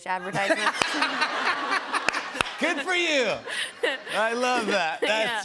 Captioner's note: laughter